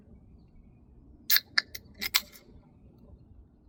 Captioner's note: dr pepper can cracks